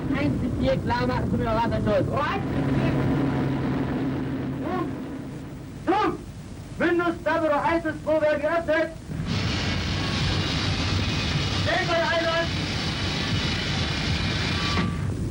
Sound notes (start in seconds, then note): 0.0 speaks foreign language